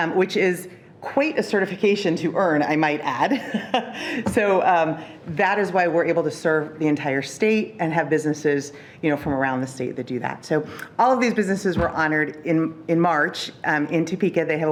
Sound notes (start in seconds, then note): 3.6 laughing